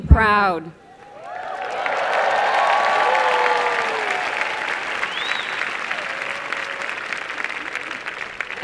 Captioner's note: applause and cheering